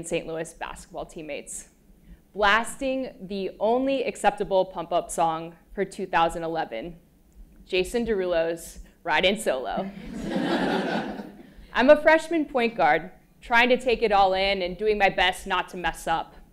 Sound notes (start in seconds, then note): 10.0 laugh